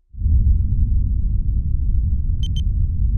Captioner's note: low rumbling; beeping